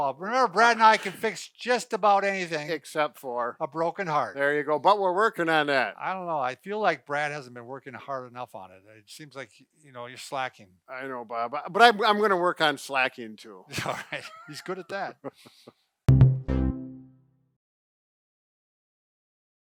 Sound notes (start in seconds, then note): 15.2 laughing; 16.1 happy jingle